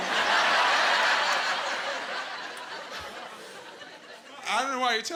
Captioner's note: laughing